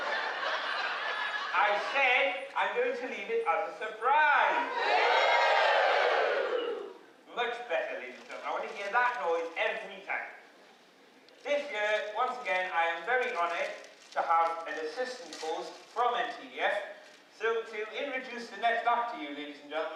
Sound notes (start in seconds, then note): 0.0 laughter; 4.4 cheers